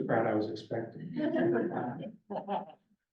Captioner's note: laughter